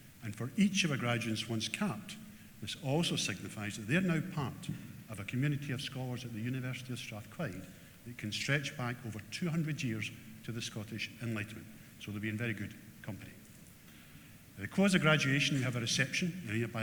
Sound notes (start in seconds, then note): none